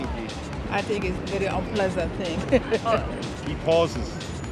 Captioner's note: laughs